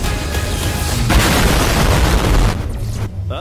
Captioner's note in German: explosion